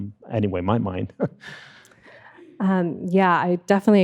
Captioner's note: chuckles